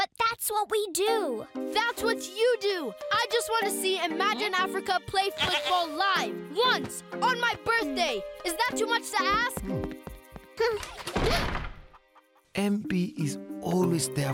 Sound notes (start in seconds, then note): 5.3 bleating; 9.2 door slams; 9.2 gasping